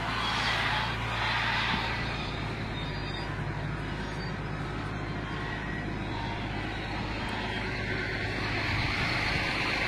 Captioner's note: machine noise